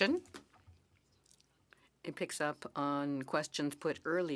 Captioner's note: speaking French